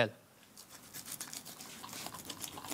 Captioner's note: cutting noises